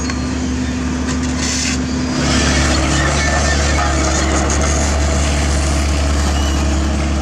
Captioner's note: engine